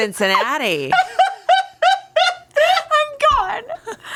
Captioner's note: everyone laughs